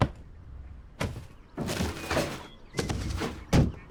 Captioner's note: trash can noise